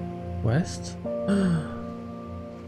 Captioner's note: gasp